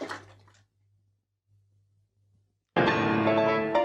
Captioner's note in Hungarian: csend